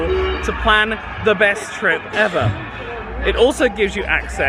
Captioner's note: laughs